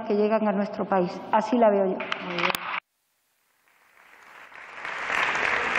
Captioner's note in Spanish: Aplausos